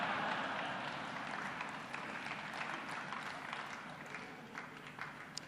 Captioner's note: laughter and applause